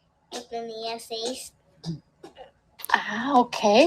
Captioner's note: teacher speaking Spanish; speaking Spanish; teacher speaking Spanish